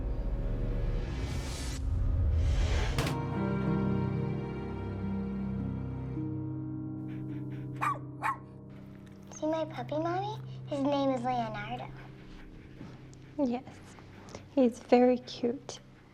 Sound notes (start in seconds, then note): 3.0 gun firing; 7.5 dog barking